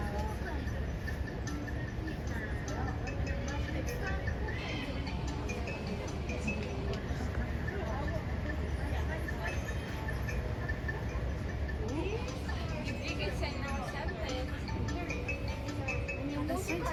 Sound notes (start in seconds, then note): none